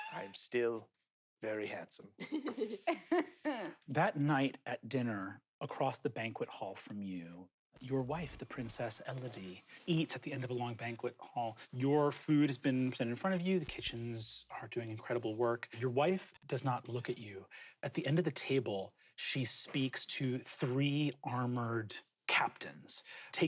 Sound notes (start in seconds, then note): 0.0 laughs; 2.2 laugh